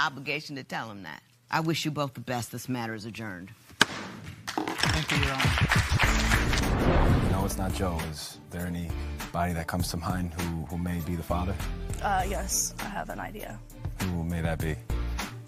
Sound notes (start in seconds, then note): 4.5 applause